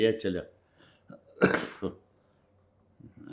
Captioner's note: coughing